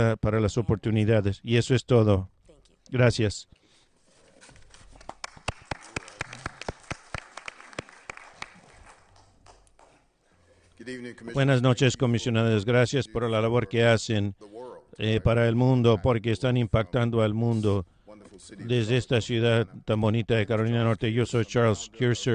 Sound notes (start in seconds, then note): 9.6 applause